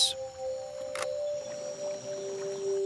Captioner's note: camera clicks